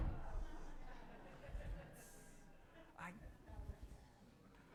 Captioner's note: audience laughing